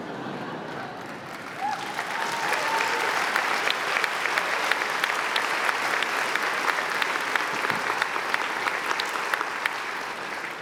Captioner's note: applause